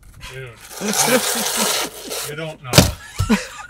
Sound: laughs

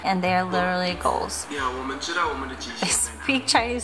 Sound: foreign language

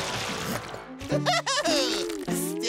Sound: laughs

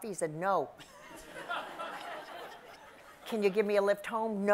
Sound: audience laughs

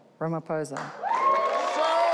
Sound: audience cheering

